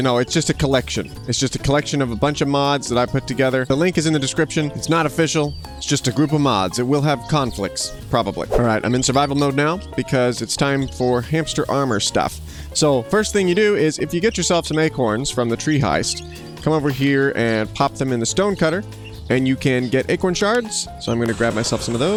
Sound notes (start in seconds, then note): 8.4 whooshing sound